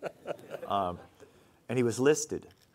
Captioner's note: laughing